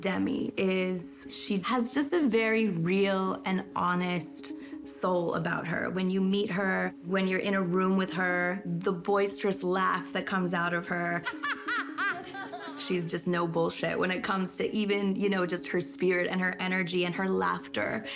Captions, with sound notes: is she has just a very real and honest soul about her. When you meet her, when you're in a room with her, the boisterous laugh that comes out of her... ( laughing ) She's just no bullshit when it comes to-- even just her spirit and her energy and her laughter.